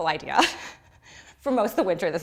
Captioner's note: laughs